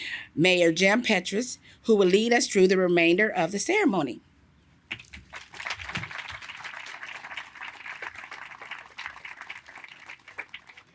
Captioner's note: applause